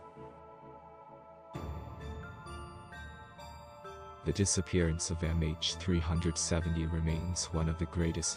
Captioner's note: voice-over